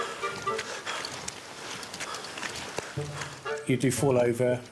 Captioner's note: light whimsical music continues; breathing heavily